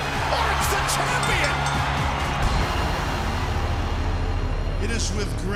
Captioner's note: bell ringing; crowd cheering